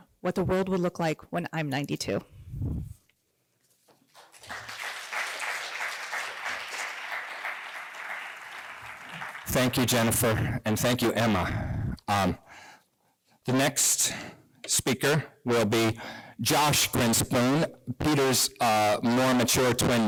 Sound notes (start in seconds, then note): 4.0 applause